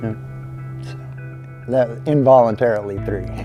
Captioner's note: chuckling